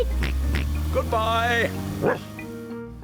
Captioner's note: oinks; barks